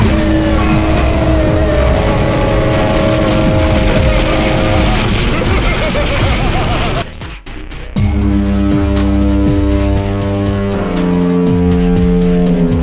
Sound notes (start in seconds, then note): 0.0 screaming and explosion sounds mixed with a fog horn; 0.1 shitting music continues; 4.0 insane laughter and explosion sounds mixed with a fog horn; 4.0 shitting music continues; 8.0 fog horn returns; 10.7 fog horn breaks i think; 10.7 shitting music continues; 12.6 fog horn breaks more i think; 12.6 shitting music continues